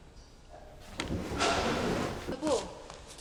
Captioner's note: door opening